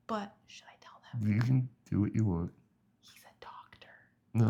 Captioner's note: whispers; whispers